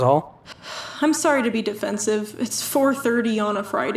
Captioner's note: sighs